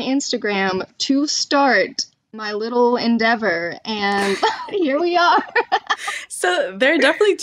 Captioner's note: laughter